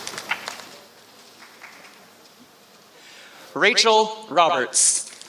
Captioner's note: applause